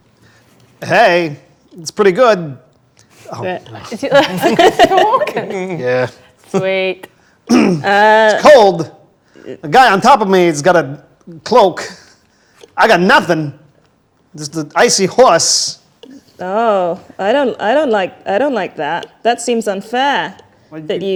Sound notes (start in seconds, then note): 3.4 overlapping chattering; 3.6 group laughs